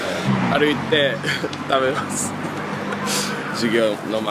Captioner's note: laughs